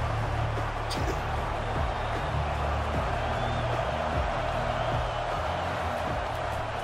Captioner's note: crowd cheering